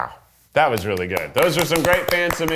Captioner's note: both applauding